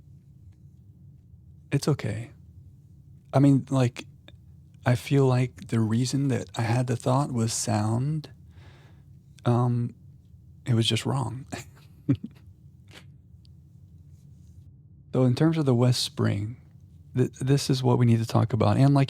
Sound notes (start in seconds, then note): 11.4 chuckles